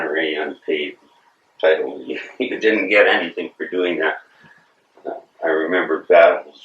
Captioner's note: laughs